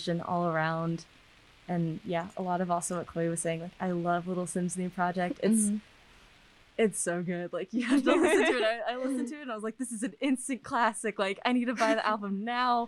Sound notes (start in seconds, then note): 7.9 all laugh; 7.9 laughing